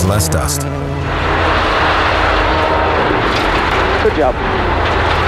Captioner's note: car engine revving